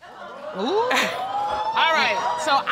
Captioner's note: audience exclaiming